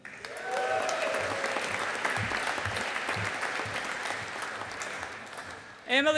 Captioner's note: audience applauding